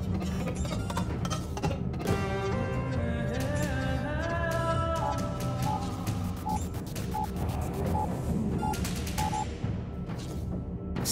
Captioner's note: instruments calculating